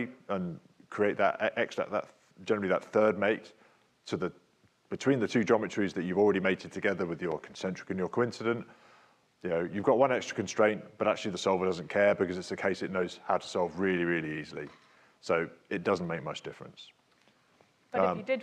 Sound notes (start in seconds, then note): 7.1 speaks faintly